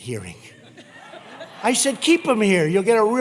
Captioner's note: laughter